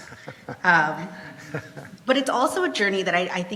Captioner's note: laughs